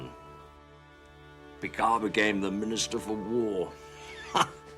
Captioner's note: chuckles